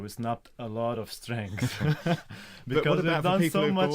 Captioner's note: laughter